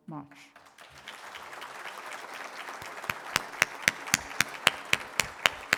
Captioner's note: applause